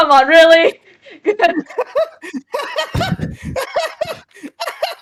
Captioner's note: manically laughs